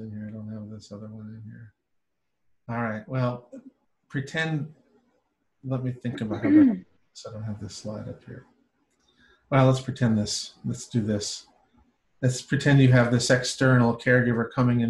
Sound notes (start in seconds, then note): 6.1 woman clearing throat